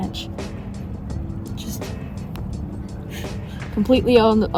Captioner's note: laughs